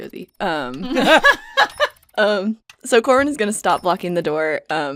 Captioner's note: laughter